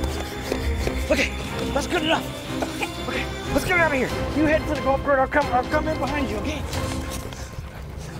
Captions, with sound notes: Okay, that's good enough. - Okay. - Okay, let's get out of here. You head to the (murmurs), I'm coming, I'm coming in behind you, okay?